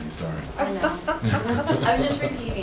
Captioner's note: laughter